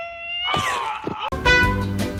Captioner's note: Lesley yelps in pain